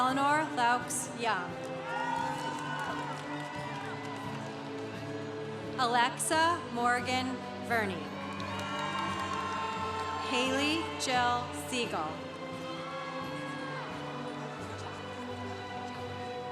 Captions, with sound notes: Eleanor Laux Young. (congregation cheering) Alexa Morgan Verne. (congregation cheering) Haley Jel Segal. (congregation cheering)